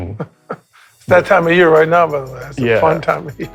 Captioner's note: chuckles